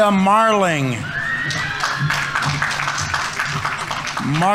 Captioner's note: audience members cheering; audience applauding